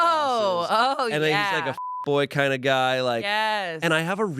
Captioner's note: beep